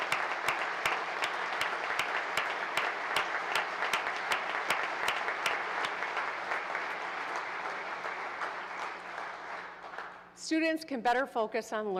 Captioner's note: applause